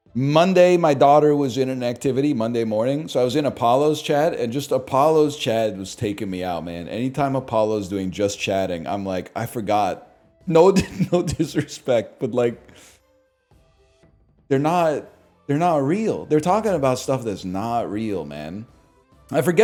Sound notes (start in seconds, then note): 10.7 cracks up